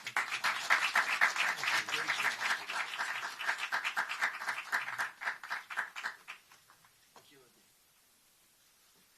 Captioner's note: applause